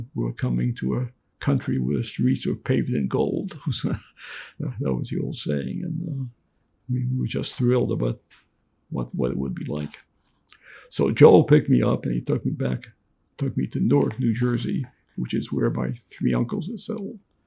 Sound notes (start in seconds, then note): 3.5 laughing